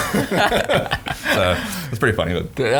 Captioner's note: both laughing